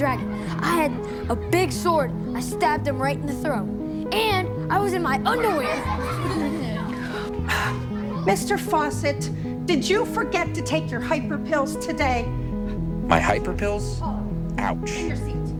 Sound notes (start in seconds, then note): 5.2 students laughing; 7.1 teacher gasping